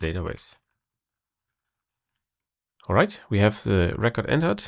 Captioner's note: blank Audio